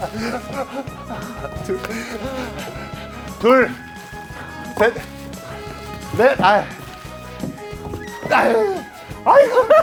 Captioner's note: tennis balls caught